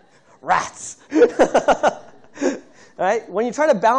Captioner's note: laughter